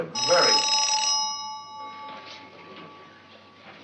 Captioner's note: telephone ringing